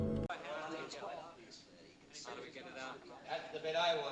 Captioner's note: murmuring